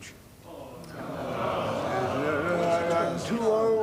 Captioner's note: cries of "no"